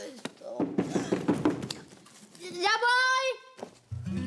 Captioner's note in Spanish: Toques en la puerta